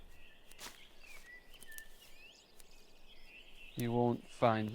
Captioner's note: birds chirping